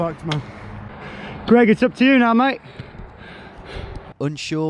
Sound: panting

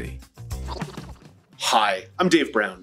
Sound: rewind sound

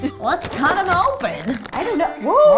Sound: slices

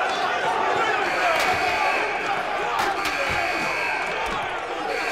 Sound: alarm buzzing

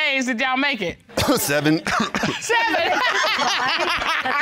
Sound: laughs; coughs

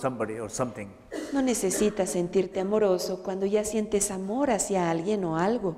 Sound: Spanish

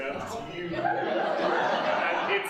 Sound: singing; audience laughing

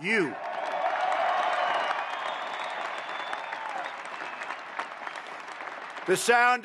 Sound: applause

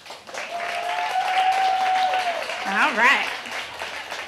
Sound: audience applauding

